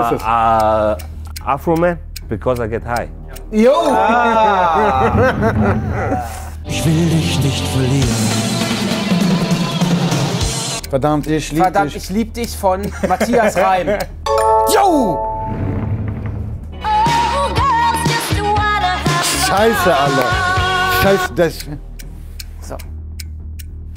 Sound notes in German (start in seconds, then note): 3.7 Lachen